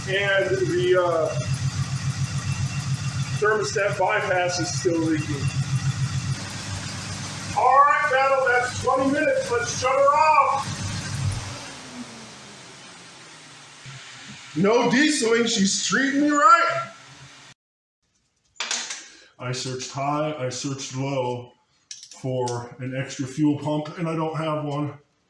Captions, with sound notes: And the; uh, thermostat bypass is still leaking. [engine idling] All right Battle that's 20 minutes, let's shut her off. [engine stops] No dieseling! She's treating me right. I searched high, I searched low for an extra fuel pump and I don't have one.